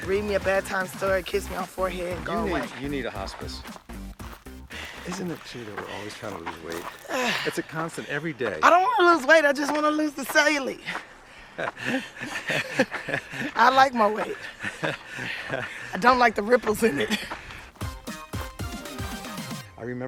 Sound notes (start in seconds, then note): 11.5 both laughing; 17.8 gentle upbeat music